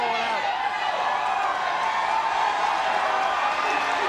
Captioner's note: audience cheers